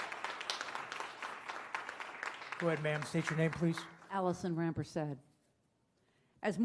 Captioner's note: applause